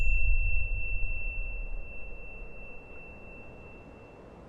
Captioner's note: wind blowing; bell chiming